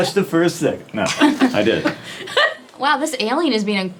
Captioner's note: giggles